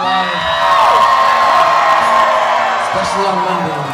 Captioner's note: cheers